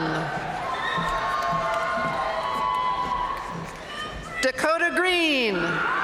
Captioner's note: audience cheering and applauding; audience cheering and applauding